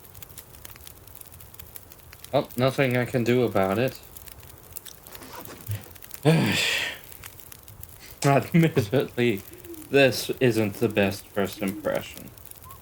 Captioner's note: sigh